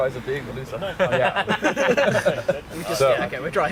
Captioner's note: laughter